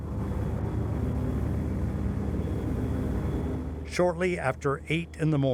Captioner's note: airplane engines rumbling